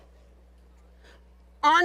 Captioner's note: whispering